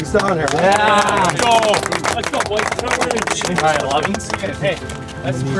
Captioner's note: clapping and chatter